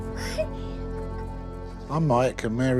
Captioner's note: laughing